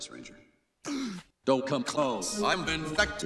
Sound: gasp

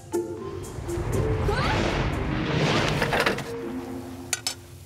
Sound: rushing wind

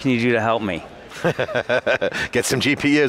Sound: laughing

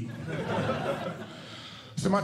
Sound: audience Laughing

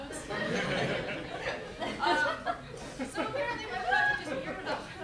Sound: laughter

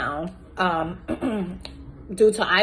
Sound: clears throat

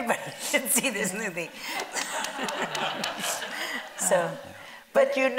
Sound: audience laughing

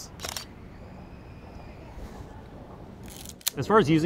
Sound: camera shutter clicks

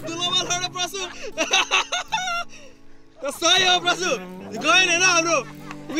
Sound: laughter

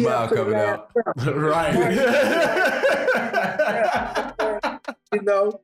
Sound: laughs heartily

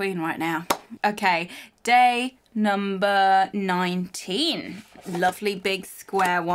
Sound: claps hands

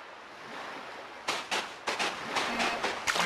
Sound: footsteps

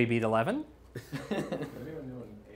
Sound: laughter

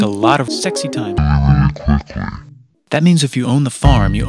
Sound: said in a slow, deep, sexy voice

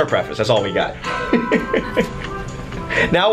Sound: laughs

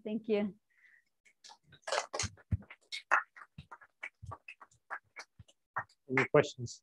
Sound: applause

